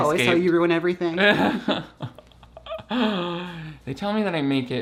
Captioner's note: laughs